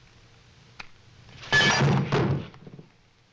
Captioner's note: clang